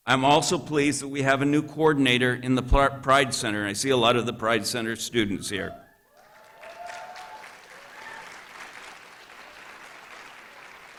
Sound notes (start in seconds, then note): 6.1 applause